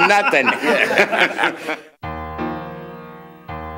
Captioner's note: men laughing